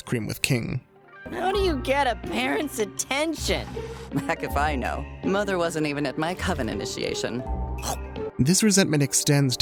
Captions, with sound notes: with King. - How do you get a parent's attention? - Heck if I know. Mother wasn't even at my coven initiation. [chomps] - This resentment extends